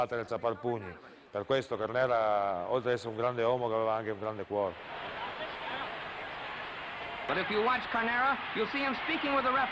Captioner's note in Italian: Applauso